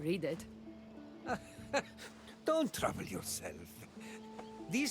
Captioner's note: laugh